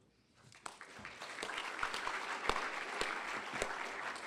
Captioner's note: applause